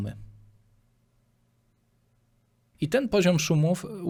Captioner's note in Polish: cisza